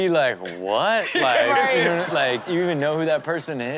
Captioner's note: everyone laughs